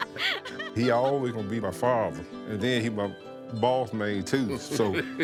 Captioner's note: laughing